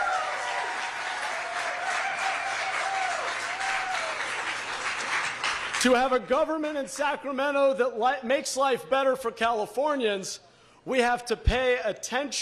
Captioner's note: applause